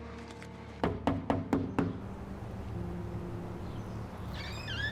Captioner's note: door knocking; birds chirping; door hinge creaking